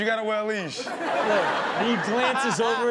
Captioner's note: audience laughs